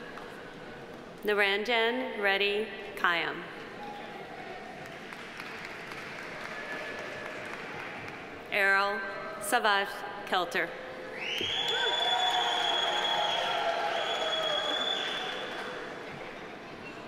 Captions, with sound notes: Niranjan Reddy Kayam. (audience applauding) Erol Savas Kelter. (audience applauding) (audience cheering)